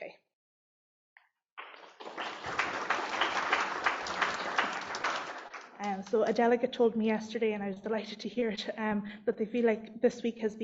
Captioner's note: applause